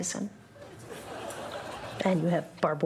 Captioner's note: scattered audience laughter